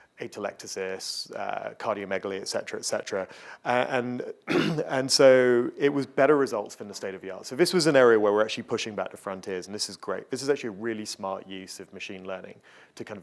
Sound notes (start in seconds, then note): 4.4 coughing